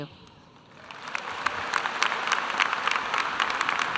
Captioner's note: applause